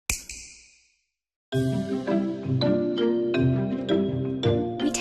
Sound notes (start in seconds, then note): 0.0 snap